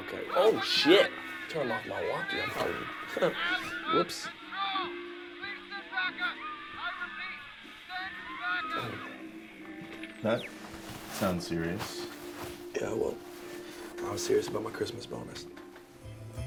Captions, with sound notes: - Okay, oh, shit. Turn off my walkee. Whoops. - [Man On Radio] Please send backup! I repeat, send backup! - That sounds serious. - Yeah, well, I'm serious about my Christmas bonus.